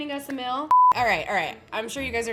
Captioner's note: beep